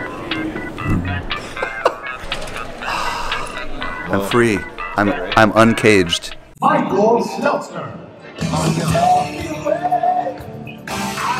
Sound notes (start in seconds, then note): 0.0 laughs; 2.7 exhales; 9.3 upbeat music